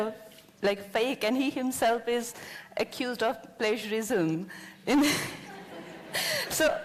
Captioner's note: laughter